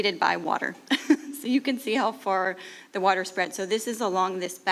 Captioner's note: chuckles